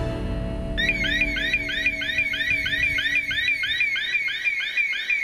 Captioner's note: alarms sounding